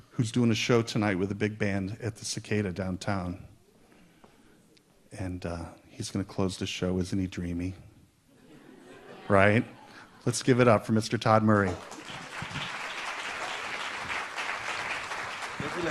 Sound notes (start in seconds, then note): 8.4 audience laughs; 11.5 audience applauds